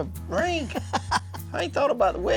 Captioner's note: laughing